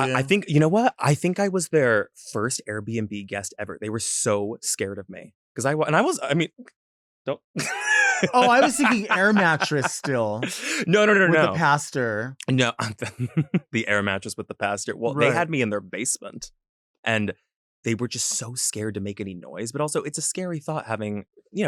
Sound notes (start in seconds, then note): 7.6 laughs; 12.7 chuckles